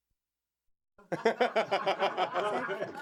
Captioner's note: Jason Alexander laughing